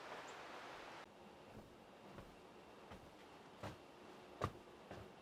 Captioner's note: feet pattering